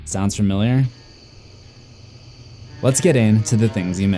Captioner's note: crickets